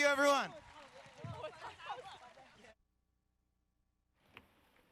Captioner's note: group chatting